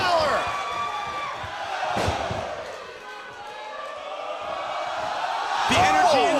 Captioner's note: crowd cheering